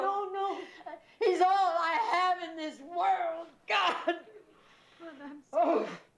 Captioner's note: sobbing; crying